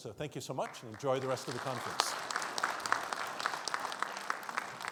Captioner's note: crowd applauds